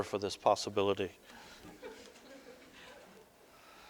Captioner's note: audience: Laughter